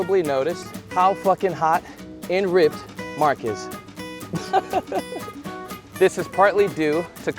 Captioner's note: laughing